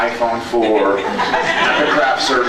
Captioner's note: laughs